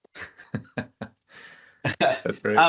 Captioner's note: laughter